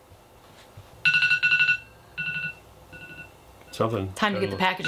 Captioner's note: alarm chimes